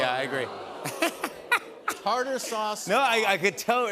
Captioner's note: audience "Oohs"; laughs